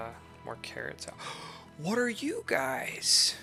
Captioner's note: gasp